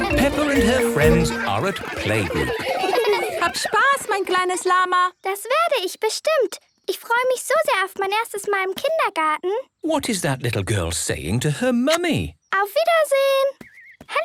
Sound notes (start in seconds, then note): 2.8 laughter; 2.8 speaking German